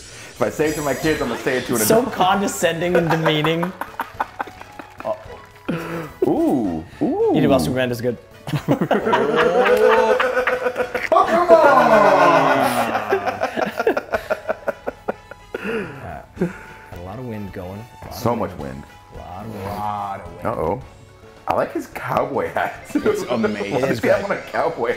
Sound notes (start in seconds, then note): 3.8 laugh